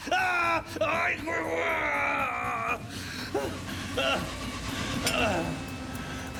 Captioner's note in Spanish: Gritos; Gemidos